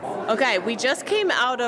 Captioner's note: background chatter